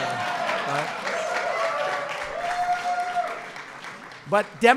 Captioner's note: applause